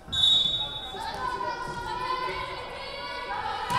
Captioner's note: whistle blowing